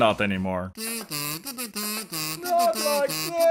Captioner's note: sound of millions of voices crying in unison